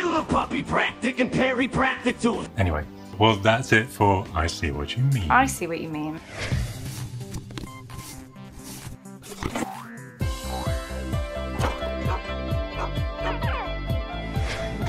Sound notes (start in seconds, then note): 6.7 upbeat chiptune; 9.5 spring boings